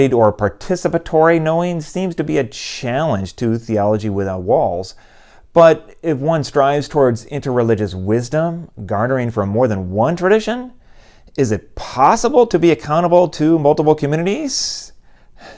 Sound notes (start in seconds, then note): none